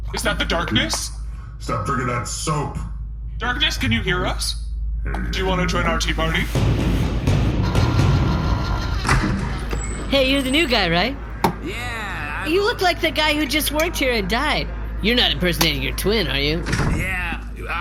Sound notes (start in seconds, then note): 0.3 excited; 10.0 kitchen door opens; 10.0 transition: ominous music; 16.3 door shuts, Derf walks over